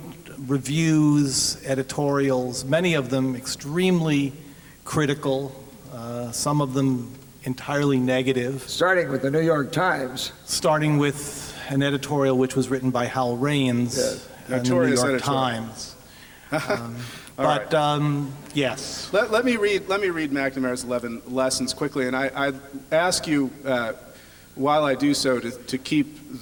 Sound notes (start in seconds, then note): 16.5 chuckling